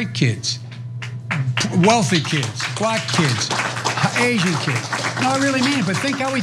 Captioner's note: applause